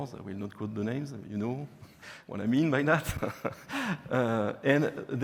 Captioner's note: laughing